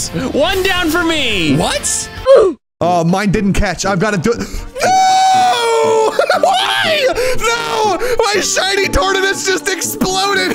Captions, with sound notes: One down for me. - What? - Oh, mine Didn't catch I've got to do (screaming)